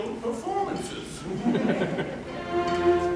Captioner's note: laughter